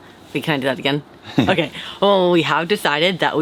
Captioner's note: laughs